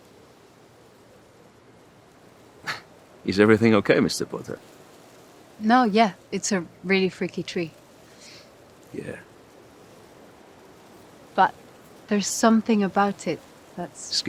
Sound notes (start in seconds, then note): 2.6 chuckle